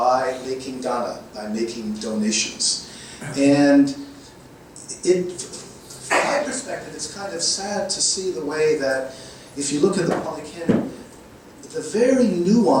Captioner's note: microphone static